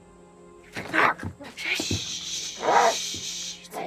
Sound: barks

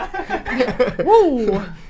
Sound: all laugh

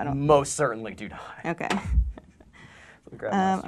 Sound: laughing

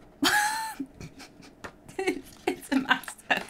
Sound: laughing

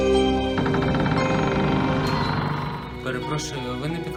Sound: door creaks open

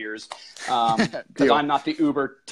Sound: laughing

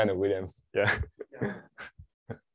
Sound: laughs

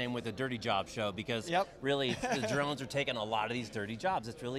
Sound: laughs

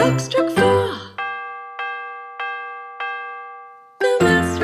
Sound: clock chiming

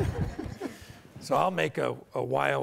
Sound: audience laughter; presenters laughter

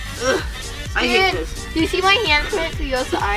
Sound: groaning

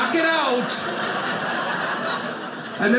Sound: audience laughing

